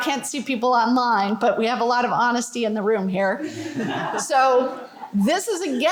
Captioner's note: laughter